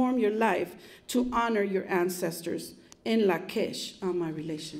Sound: non-english speech

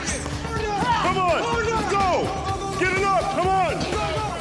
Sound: men yelling

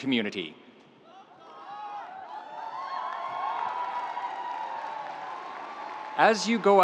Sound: audience applauding; audience cheering

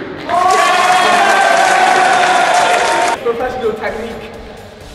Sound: clapping; cheering

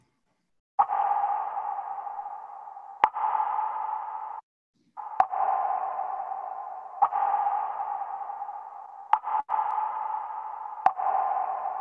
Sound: water dripping

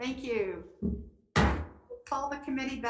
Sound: gavel bangs

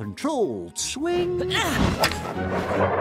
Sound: grunting

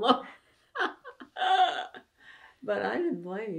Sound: laughter

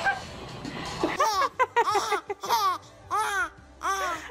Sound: baby babbling; baby laughing

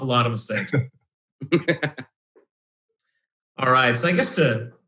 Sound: laughs

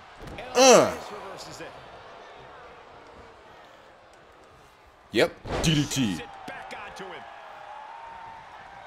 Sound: applause

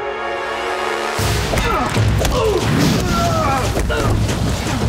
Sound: grunting

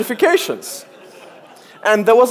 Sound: audience laughs

